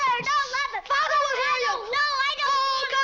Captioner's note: kids screaming at each other